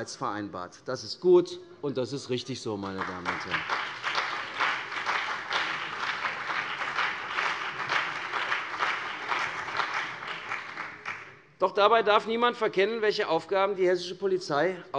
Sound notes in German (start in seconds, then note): 4.4 Beifall CDU und BÜNDNIS 90/DIE GRÜNEN